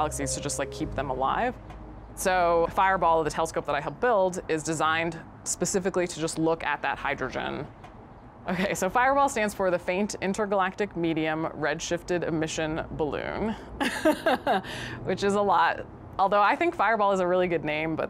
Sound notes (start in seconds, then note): 13.8 laughs